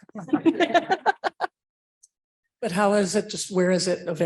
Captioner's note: laughing